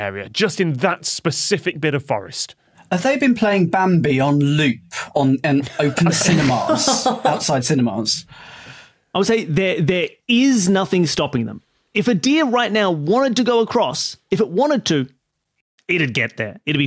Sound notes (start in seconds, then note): 5.6 others laughing